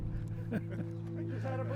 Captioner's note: chuckling